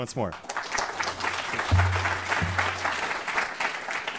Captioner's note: applause